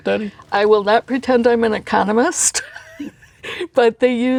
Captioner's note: laughs